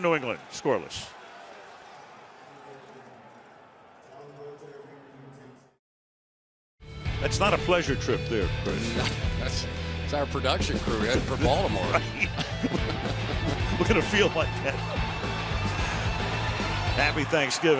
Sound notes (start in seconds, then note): 11.7 laughs; 15.7 upbeat music